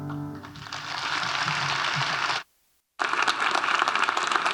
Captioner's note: audience applauding